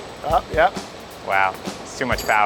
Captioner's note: machine lifting